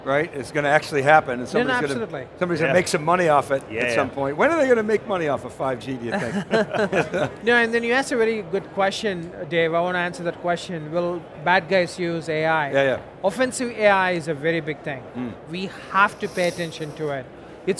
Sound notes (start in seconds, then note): 6.1 all laughing